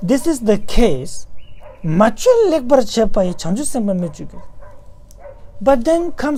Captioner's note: tibetan